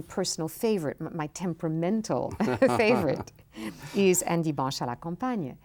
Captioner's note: both laughing